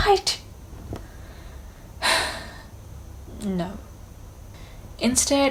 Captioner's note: sighs